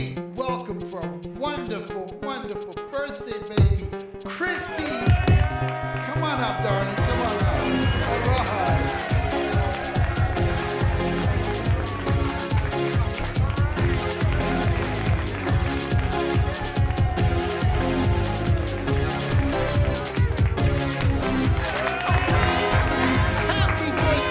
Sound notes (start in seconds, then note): 4.2 applause; 4.2 cheering; 8.2 techno music; 9.4 applause; 9.8 techno music; 10.6 applause; 18.1 cheering